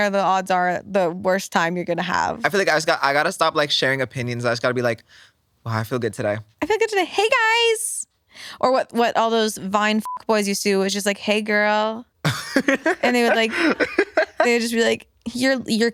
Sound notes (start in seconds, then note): 10.0 beep; 12.2 laughs